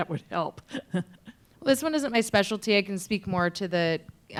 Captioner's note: laughs